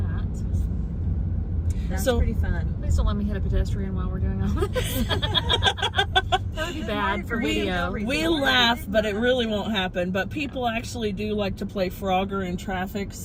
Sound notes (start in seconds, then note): 4.5 all giggle